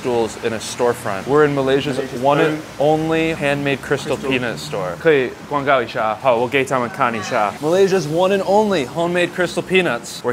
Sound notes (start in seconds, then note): 5.0 Mandarin